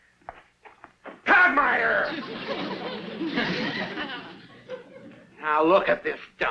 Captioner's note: audience laughs